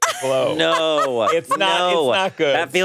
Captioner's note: laughing